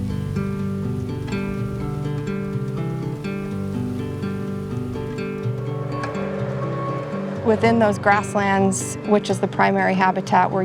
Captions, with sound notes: (backhoe beeps) Within those grasslands, which is the primary habitat,